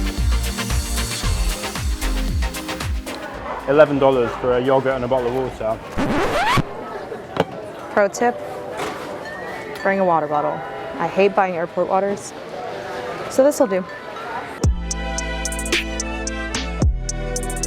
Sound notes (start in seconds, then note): 5.8 record scratch; 14.7 calm music plays